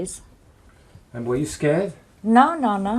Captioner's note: voiceover